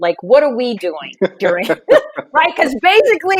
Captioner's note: laughing